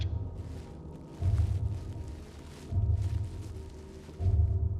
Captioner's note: bubble wrap rustling